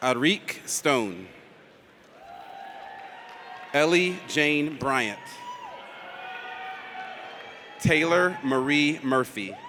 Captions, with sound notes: Eric Stone. (audience cheers) Ellie Jayne Bryant. (audience cheers) Taylor Marie Murphy.